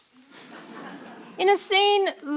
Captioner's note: audience laughing